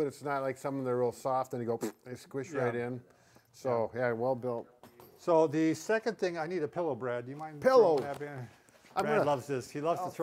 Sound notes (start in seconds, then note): 1.8 lips blowing raspberries